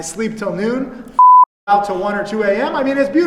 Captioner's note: beep